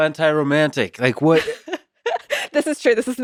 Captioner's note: laughs